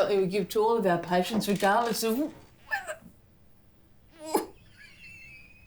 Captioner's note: groans